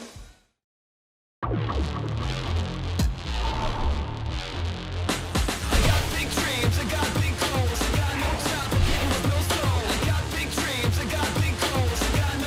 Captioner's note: crowd cheering